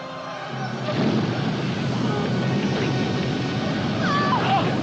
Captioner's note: ominous music; whooshing of flames; Peggy cries out, screams